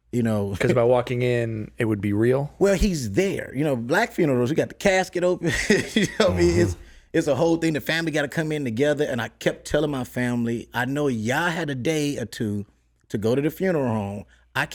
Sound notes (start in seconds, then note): 5.8 laughs